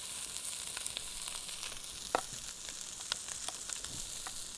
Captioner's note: pan sizzling continues